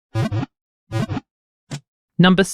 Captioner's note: Pokéball wiggle sound